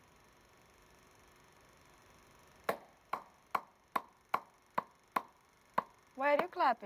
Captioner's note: clapping